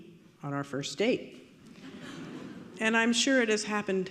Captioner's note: audience laughing